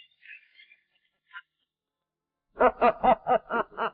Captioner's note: laughing